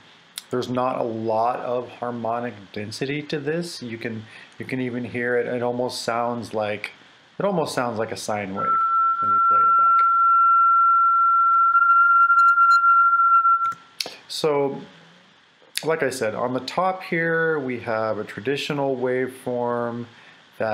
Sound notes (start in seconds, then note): 9.3 tinamou sound